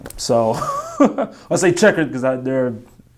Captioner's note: laughing